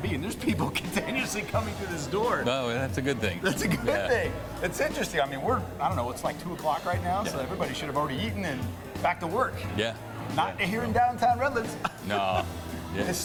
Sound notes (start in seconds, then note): 3.4 laughs; 11.6 chuckles